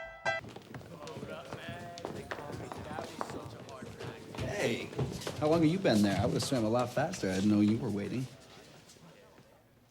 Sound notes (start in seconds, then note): 0.7 students chattering